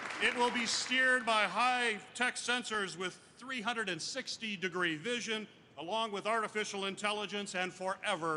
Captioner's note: applause